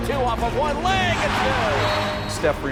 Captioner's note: crowd cheering